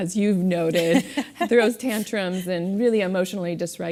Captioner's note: laugh